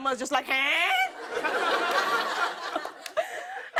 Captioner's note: laughter